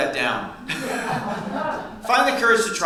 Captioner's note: audience laughs